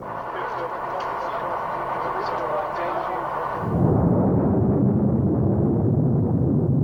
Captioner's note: group chatter; missile roaring